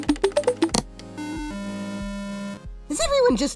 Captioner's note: error noise